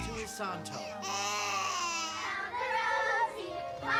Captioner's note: baby crying; girls singing